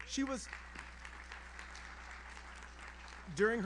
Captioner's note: audience applauds